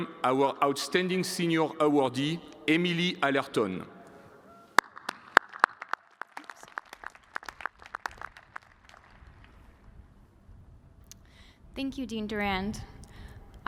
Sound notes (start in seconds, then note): 3.8 cheers and applause